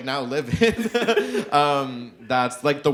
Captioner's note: chuckles